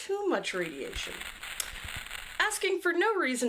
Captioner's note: static crackle